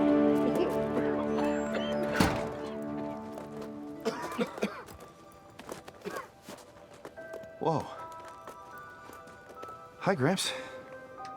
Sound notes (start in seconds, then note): 1.7 everyone coughing